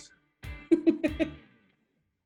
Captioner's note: giggles